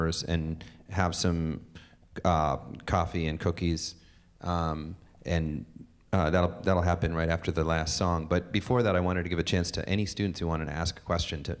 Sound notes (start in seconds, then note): none